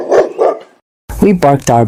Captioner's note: dog bark